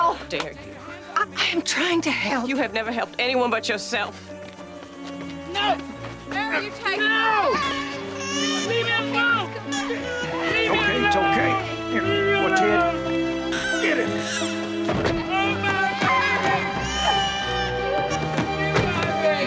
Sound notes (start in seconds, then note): 5.2 dramatic music; 14.0 Henry screaming